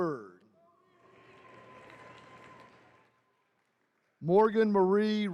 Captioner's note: attendees cheering